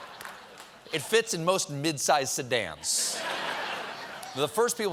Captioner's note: laughter